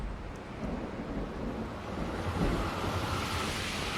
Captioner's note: thunder rumbles